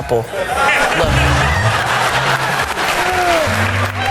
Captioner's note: laughter